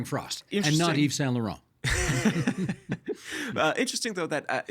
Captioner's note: laughing